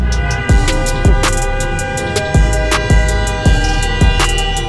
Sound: car blaring horn

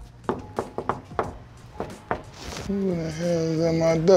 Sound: knocking on door

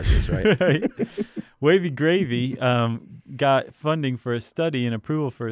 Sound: laughs

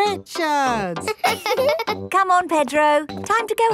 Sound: both laughing; chuckles

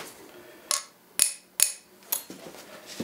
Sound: bright banging

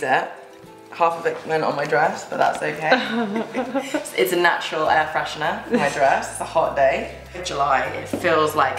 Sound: laughter

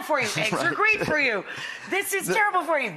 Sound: laughter

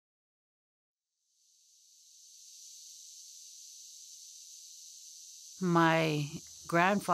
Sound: insects chirping

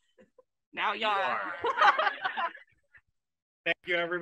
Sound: laughs

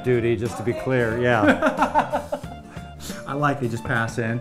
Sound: laughs

